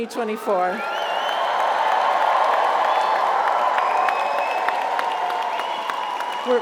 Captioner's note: audience cheers; audience applauds